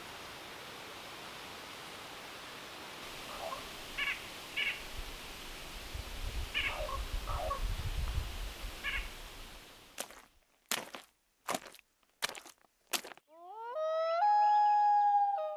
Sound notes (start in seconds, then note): 3.7 bird chirping; 10.4 footsteps thumping; 13.4 animal howling